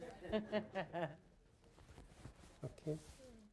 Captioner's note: laughter